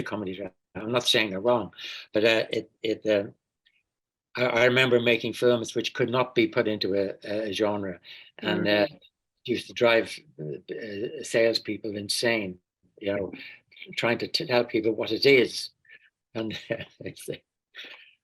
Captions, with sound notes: no, it is a comedy-drama, I'm not saying they're wrong. But I remember making films which could not be put into a genre, and it used to drive salespeople insane, you know, trying to tell people what it is. (laughing)